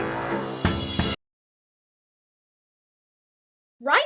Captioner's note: intense Music Plays; sudden Silence